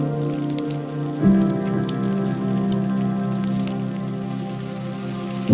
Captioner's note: fry pan sizzles continues